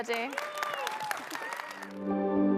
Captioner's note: audience cheering; audience applauding; gentle music